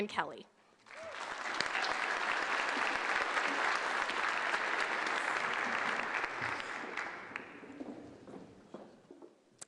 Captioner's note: applause